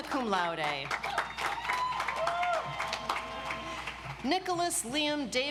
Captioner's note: audience applauds